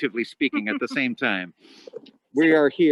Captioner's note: chuckling